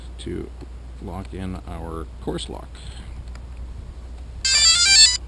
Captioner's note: beep-Beep-Beep